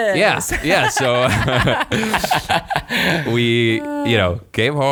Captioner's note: laughing